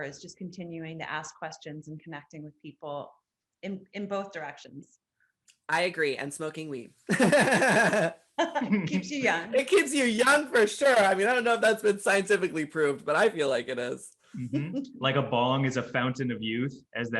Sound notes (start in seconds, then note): 7.1 all laughing; 14.5 laughs